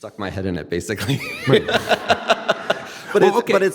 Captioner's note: laughing